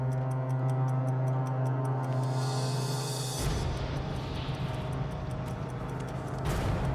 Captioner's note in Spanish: sonido apresurado de un reloj